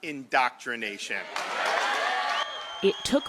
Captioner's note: cheering and applause